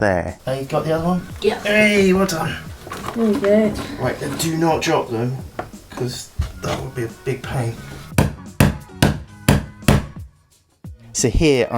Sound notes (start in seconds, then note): 9.1 banging noise